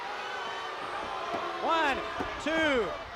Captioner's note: crowd chatter